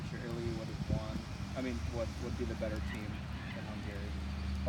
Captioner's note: vehicles hydroplaning